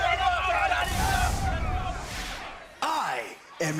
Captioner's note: crowd chatter; crowd cheering